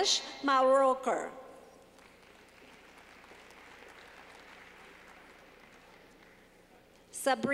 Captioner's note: clapping